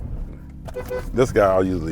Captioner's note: car horn beeps